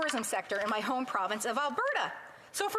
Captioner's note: speaking French